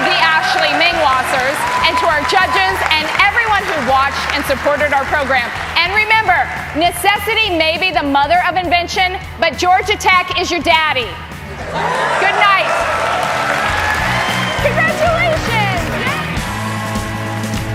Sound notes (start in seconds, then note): 11.6 laughter; 13.3 applause